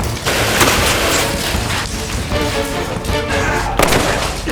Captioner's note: rapid gunfire popping; gunshot booming